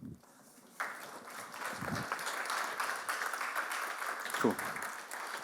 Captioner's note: audience applauds